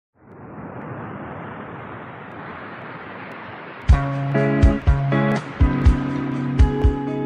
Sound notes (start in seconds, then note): 0.2 wind whooshing; 3.9 light music begins